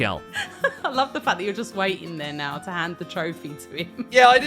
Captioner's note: laughs